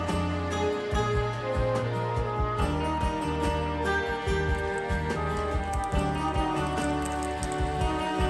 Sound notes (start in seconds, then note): 4.4 hand sizzling